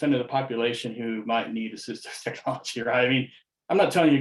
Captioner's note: chuckles